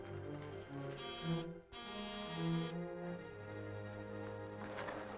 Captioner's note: alarm buzzing